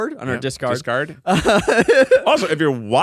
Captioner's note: laughs